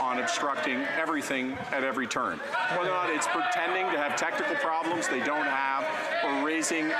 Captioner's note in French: voix de l'interprète